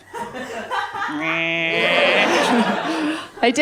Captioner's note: laughter